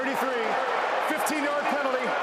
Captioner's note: booing